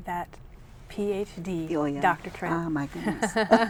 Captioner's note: laughing